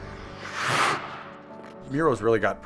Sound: skates scrap

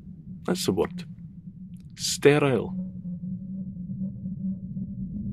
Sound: the sound of wind blowing through empty streets

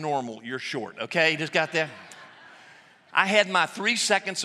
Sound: laughter

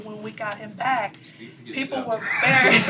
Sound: laughter

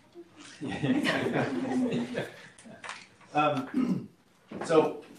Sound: laughter

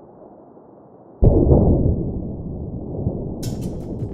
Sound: distant crash

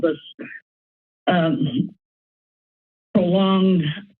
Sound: pause

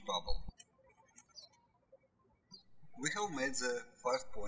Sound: birds chirping

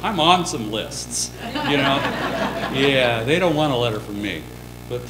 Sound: laughter

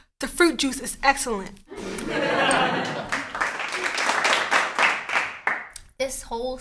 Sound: audience laughter & applause

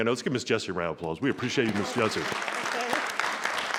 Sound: audience applauding

